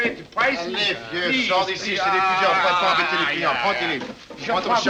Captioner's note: arguing in French